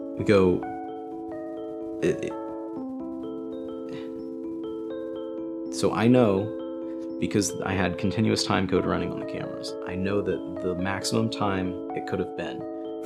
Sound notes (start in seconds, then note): none